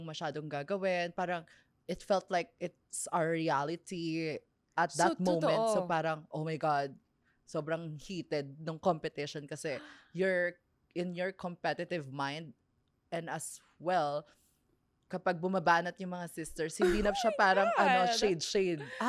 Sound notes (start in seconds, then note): 16.8 laughs